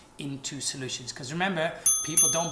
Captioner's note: bell dings